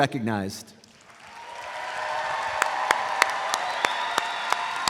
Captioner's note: audience applauds